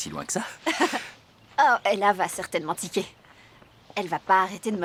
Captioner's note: chuckling